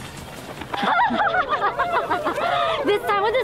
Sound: menacing laugh

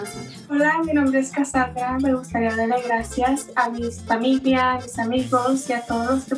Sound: speaks in foreign language

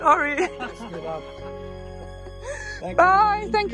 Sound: all chuckling

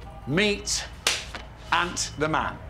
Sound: clap

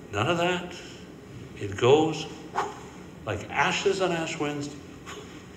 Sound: blowing

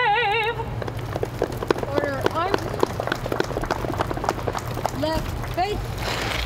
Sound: muffled applause

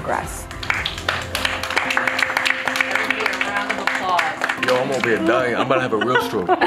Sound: applause

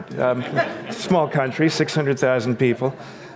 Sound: audience laughs

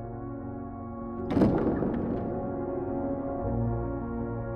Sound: doors Open

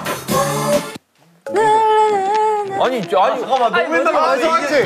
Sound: frustrated

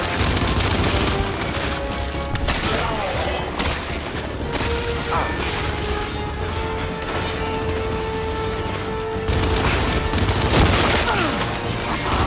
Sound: gunfire

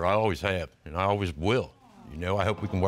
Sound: audience awes

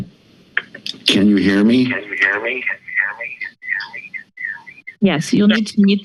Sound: voice echoing

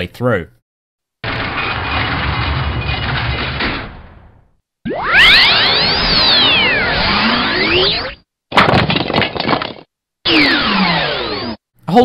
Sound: sound effects

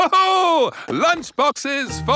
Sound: laughs

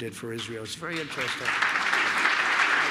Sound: applause

